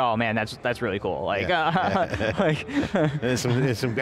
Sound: both laughs

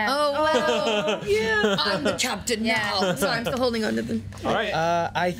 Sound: laughing; laughs

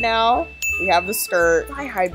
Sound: bell dings

